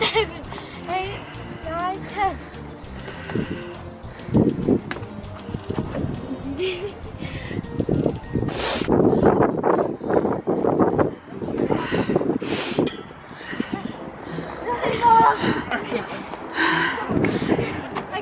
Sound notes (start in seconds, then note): 0.0 lighthearted game music; 6.2 giggling